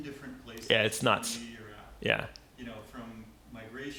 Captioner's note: voiceover